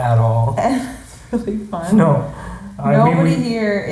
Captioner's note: laughing